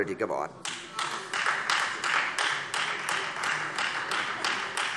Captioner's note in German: Beifall Freie Demokraten